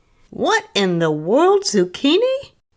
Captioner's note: none